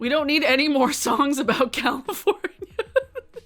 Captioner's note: laughs